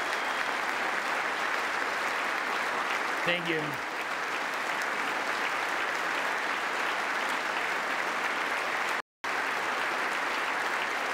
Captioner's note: applause